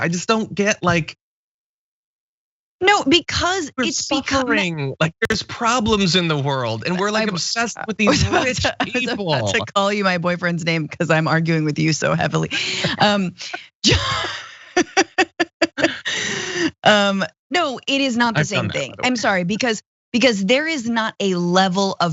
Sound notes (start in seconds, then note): 12.6 laugh